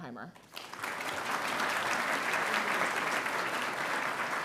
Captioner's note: audience applauding